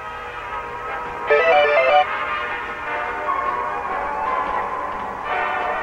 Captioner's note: faint upbeat jazz music; electronic chirping